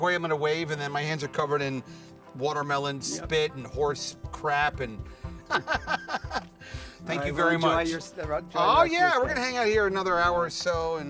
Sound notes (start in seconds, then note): 5.4 laughs